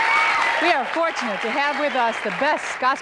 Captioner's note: audience applause and shouts; applause cont